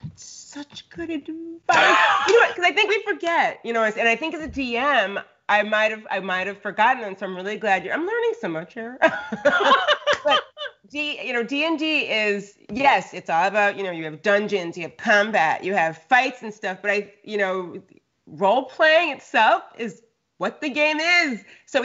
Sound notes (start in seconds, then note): 1.7 Brennan laughing; 9.0 both laughing